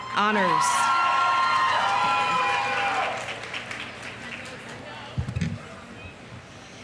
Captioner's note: audience cheering; audience applauding